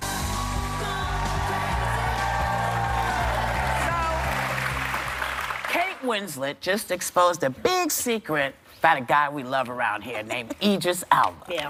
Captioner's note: cheers and applause